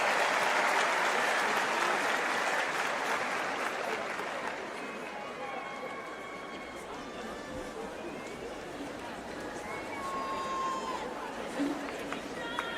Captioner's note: applause